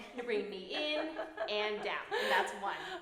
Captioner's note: laughing